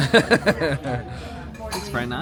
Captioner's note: laughs